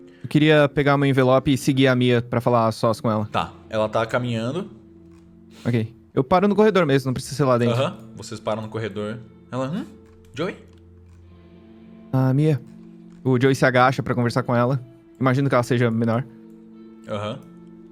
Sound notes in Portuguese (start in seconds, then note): none